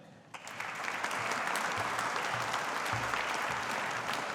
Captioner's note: audience applauding